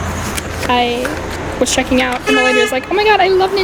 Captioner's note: honk